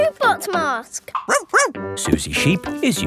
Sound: barks

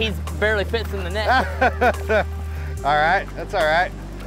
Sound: laughs

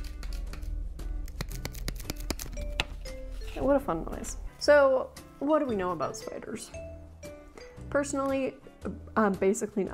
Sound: mouth-slapping noises

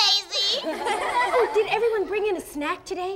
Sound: laughing

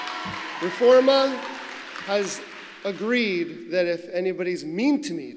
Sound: cheers

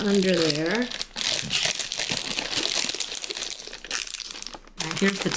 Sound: loud plastic crinkling

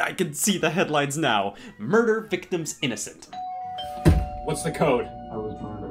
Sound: door bell rings

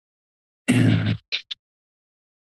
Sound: clears throat

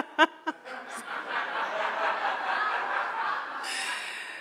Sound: crowd laughing

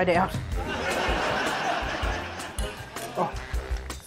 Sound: laughter

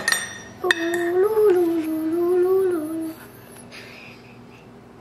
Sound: humming

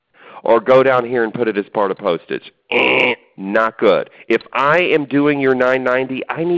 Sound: buzzer sound

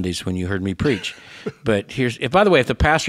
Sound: laughs

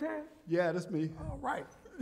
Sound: laughter

